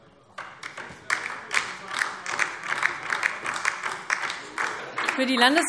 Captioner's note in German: Beifall DIE LINKE